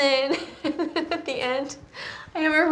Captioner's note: Genevieve laughing